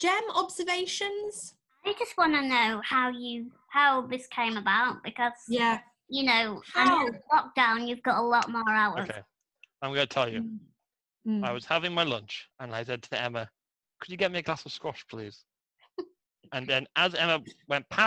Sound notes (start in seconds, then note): 16.6 laughs